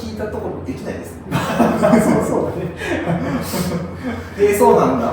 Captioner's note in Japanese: 爆笑